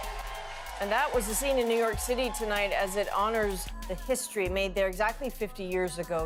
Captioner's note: cheers and applause